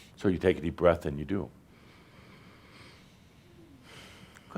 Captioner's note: they take a deep breath